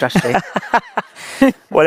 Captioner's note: laughing